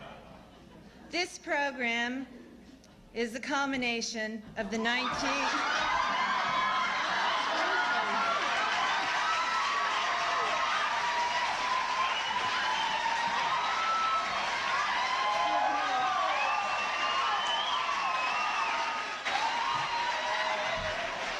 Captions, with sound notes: This program is the culmination of the 19th ... [laughs] [ Laughter ]